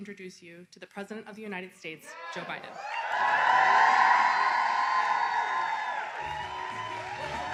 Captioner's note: cheering